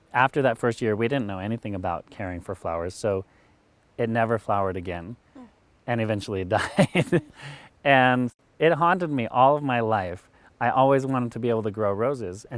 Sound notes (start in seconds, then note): 6.0 laughing